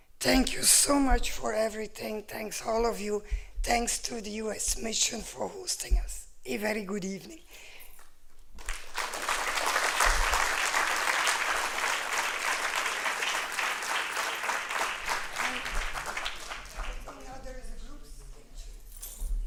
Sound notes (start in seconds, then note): 8.3 applause